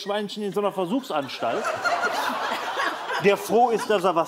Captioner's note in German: Lachen